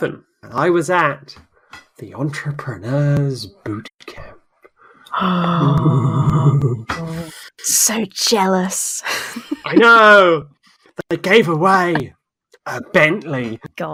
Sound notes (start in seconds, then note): 6.9 gasps